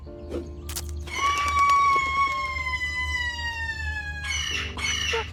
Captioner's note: Pauline screaming